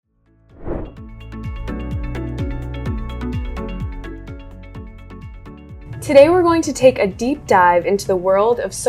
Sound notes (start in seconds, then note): 0.5 graphic whooshing; 0.9 bright music